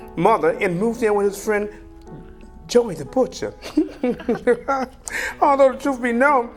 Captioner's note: laughs